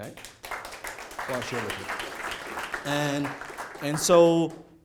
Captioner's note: applause